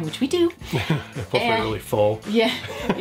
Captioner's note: chuckles